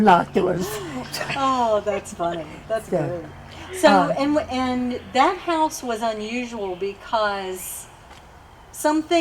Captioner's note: laughter